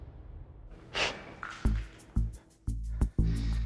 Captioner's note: laughs